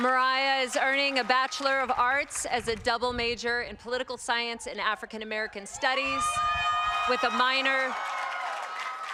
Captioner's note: cheers and applause